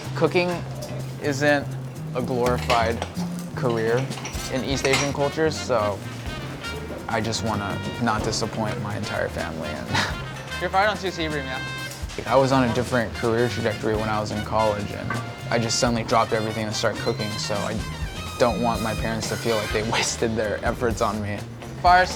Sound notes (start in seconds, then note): 9.6 laughs